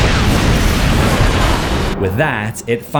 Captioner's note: explosion